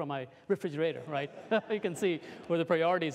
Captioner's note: laughter